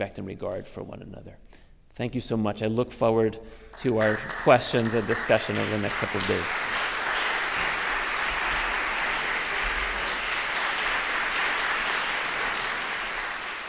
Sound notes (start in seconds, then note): 7.0 applause